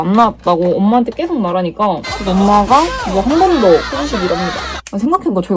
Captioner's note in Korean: 비명